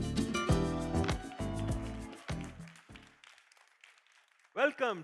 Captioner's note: cheers, applause